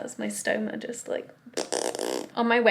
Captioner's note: gassy sounds